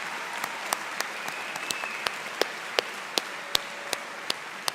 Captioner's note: cheers and Applause